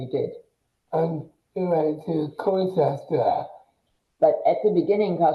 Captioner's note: mumbles excitedly